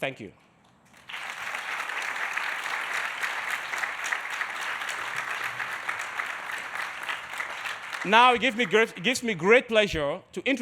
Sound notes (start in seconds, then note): 0.9 audience applauding